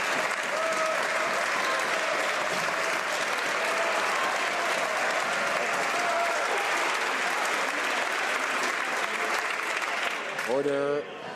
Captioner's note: some Applause